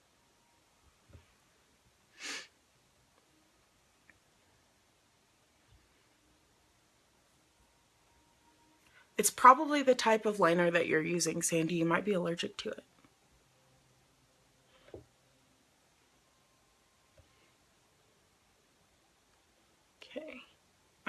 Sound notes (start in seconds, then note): 2.2 sniffs